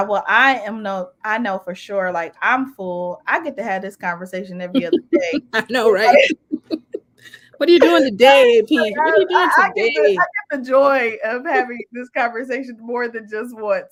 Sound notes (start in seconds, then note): 6.4 laughter